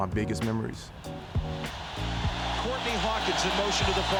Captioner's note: fans cheering